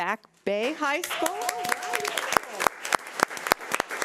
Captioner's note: crowd applauding